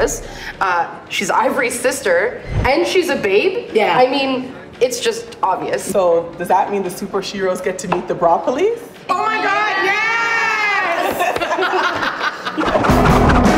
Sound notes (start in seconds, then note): 11.0 laughter